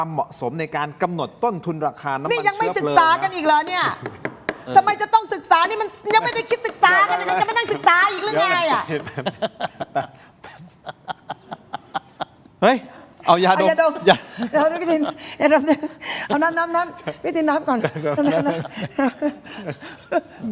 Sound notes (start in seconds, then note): 11.2 laughs